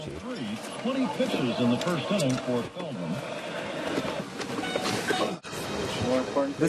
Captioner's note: radio